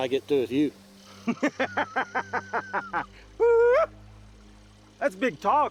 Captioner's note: Two Moons laughing